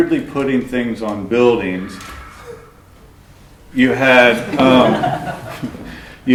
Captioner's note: laughter